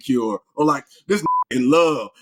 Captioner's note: beep